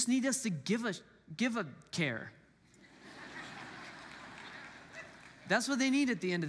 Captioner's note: congregants laugh